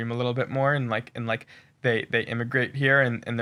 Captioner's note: none